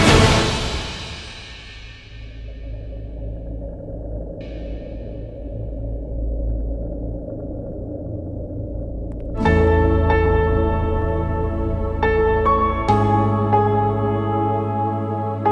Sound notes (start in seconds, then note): none